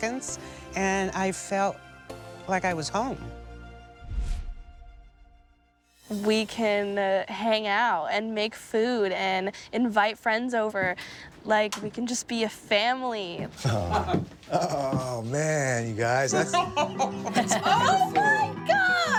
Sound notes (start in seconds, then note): 13.6 chuckles; 16.3 laughter